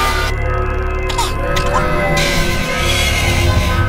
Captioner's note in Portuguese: Bebê Zumbi Chorando